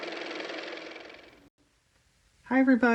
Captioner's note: car motor